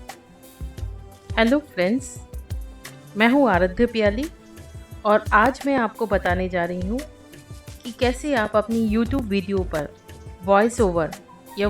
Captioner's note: playing Recorded Voice